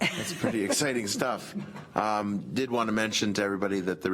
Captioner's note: laughs